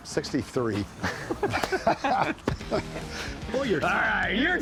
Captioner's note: both laugh